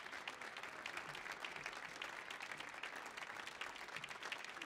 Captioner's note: audience applauding